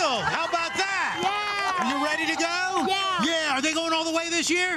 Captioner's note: cheers and applause